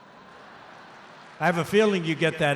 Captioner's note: laughter